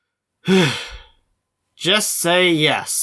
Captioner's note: sigh